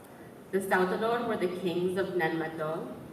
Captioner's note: none